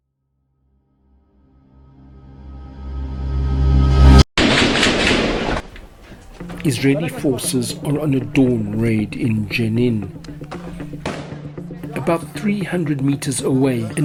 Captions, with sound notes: (gun shots fired) - Israeli forces are on a dawn raid in Jenin. About 300 meters away,